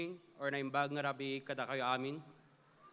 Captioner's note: speaking in Filipino